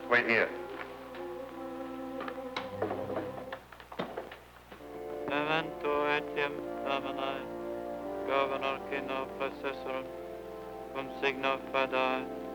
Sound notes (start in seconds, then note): 1.0 ominous music; 5.4 priest speaking foreign language